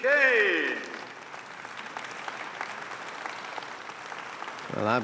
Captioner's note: audience applauding